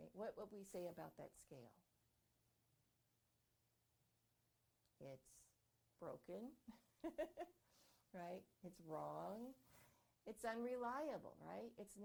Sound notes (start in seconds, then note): 7.0 laughing